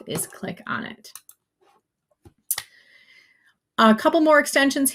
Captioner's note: mouse clicks